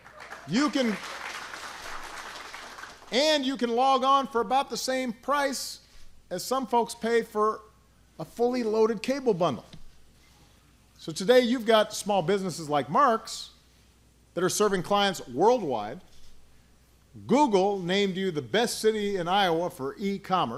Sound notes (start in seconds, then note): 0.0 applause